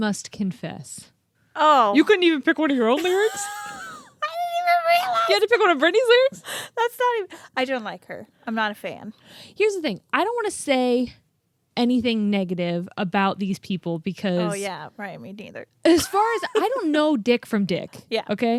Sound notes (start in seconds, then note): 2.9 laughs; 15.8 laughs